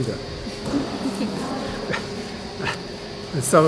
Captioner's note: laughter